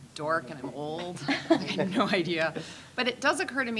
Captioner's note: scattered laughing